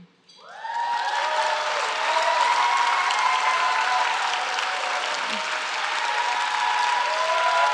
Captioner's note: applause